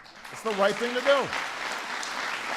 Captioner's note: applause